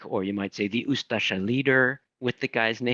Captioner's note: speaking in foreign language